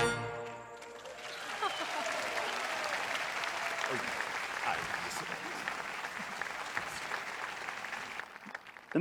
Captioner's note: audience applauds